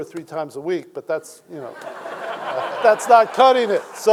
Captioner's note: audience laughing